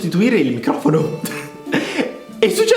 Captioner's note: laughs